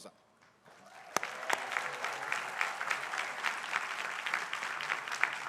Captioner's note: crowd applauding